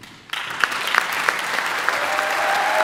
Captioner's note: audience applauding; audience cheering